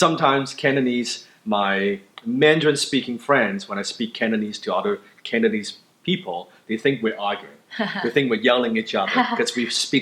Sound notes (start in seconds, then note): 9.0 laughs